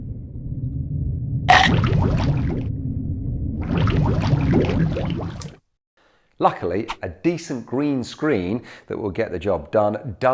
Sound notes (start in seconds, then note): 1.5 shark crunches; 3.6 water gurgling